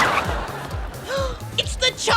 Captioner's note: gasps